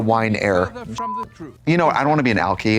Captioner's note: beep